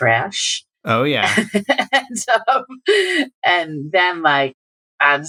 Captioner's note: laughter